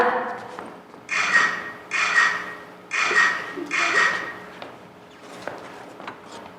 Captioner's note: camera shutter sounds